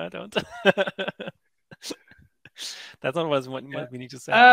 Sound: laughs

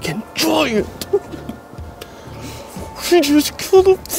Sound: chuckles

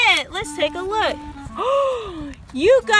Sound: voiceover; gasps

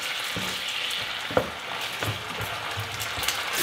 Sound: pan sizzling

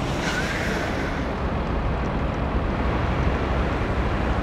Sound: bus Engine; tyres screech

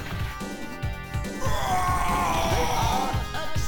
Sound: Magneto yells and dies

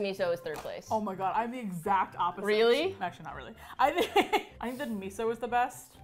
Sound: laughs

